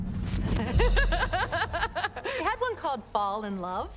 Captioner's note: laughter